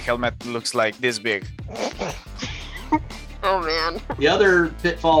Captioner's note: chuckles